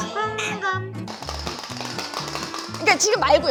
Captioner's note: tapping sounds!!!